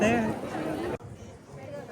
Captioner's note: audience laughing